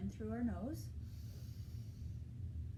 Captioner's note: inhaling